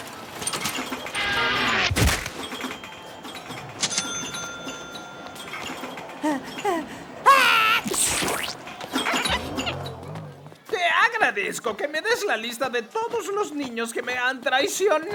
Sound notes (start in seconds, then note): 7.3 sneezing